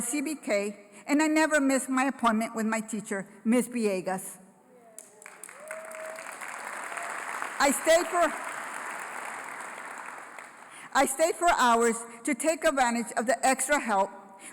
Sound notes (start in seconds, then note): 4.9 applause